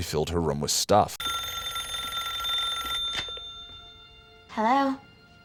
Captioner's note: rings